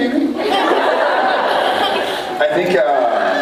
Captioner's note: laughs